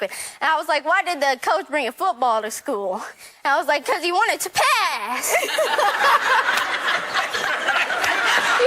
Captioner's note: laughter